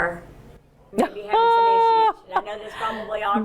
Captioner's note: exclaims